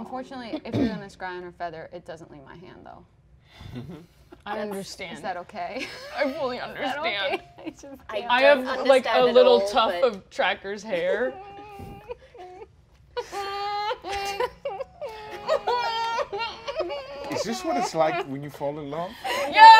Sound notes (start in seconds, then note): 12.9 sobbing